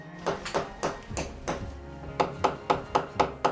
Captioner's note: hammering